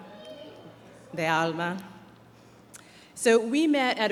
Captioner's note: speaking in foreign language